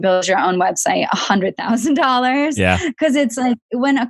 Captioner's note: laughs